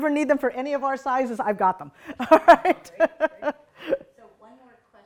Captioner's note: laughs